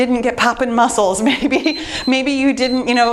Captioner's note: timer beeps